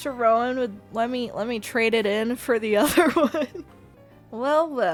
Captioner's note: laugh